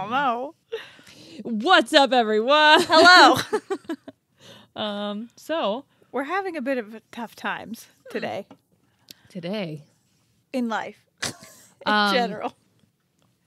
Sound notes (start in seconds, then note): 2.7 laughing